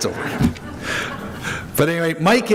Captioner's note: crowd laughs